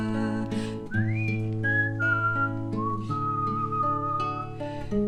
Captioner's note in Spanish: silbado